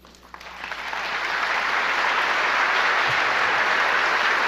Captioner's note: audience applauds